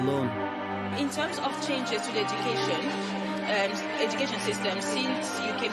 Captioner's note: background voice